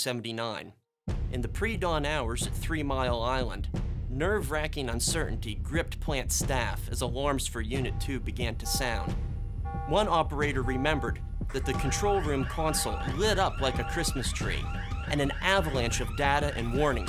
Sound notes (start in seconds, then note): 1.1 dramatic music; 8.7 beeping